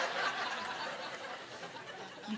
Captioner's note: laughing